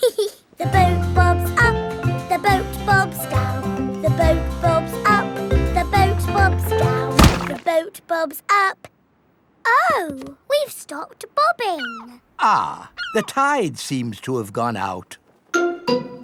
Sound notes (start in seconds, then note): 0.0 giggles; 7.1 thuds